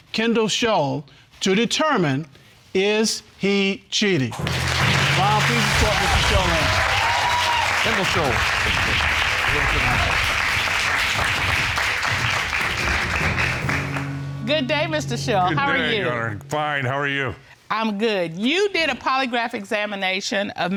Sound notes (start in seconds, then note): 4.6 audience applauding; 6.8 audience cheering